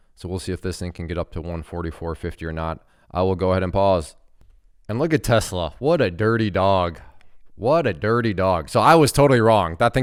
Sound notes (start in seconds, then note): none